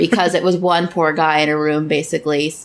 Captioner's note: laughs